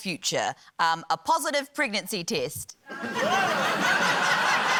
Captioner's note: laughter